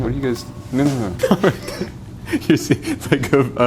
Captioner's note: laughing